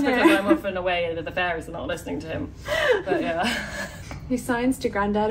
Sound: laughs

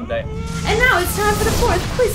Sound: explosion noise

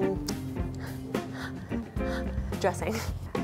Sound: breathing heavily

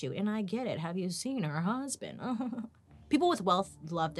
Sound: laughing

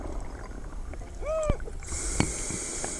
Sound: water burbling; wheezes; inhales deeply

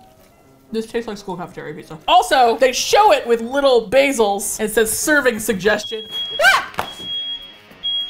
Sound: fire alarm sounds

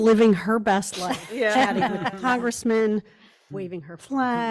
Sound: group laughs

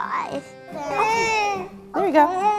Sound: cries

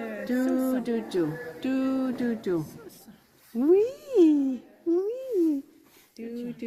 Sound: people in video speaking French

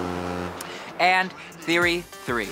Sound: honk

